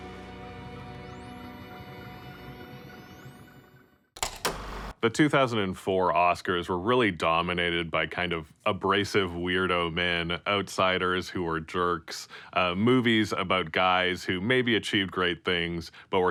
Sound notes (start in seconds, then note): 0.3 intense music; 4.2 film reel clicks